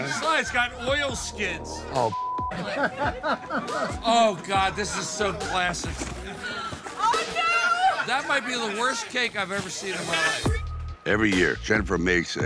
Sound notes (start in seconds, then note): 2.0 beep